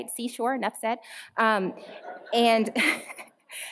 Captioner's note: laughter